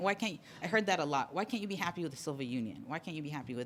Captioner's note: voiceover